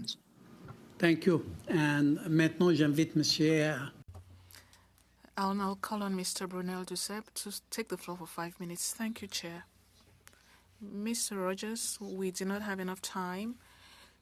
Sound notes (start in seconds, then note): 6.7 speaking French